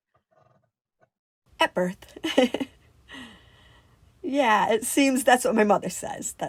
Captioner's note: laughs